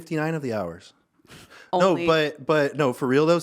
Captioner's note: chuckling